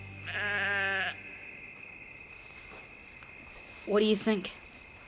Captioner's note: sheep baaing